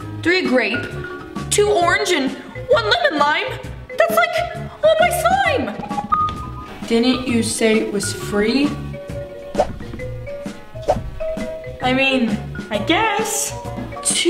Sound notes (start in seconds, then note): 5.7 ding; 10.6 whoosh